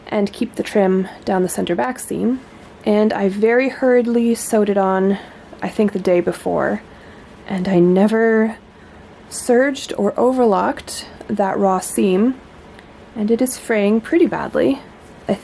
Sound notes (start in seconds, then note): none